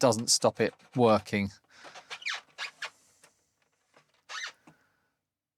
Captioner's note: squeaking